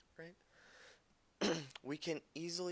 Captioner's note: clears throat